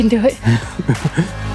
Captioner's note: laughing